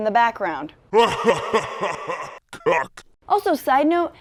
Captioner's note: demonic laugh